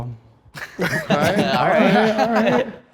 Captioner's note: group laughs